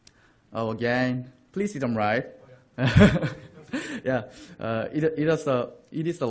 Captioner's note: laughter